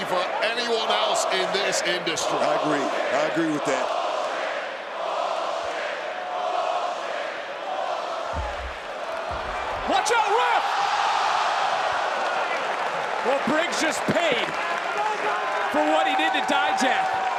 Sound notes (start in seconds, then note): 2.8 crowd chants; 4.9 crowd chants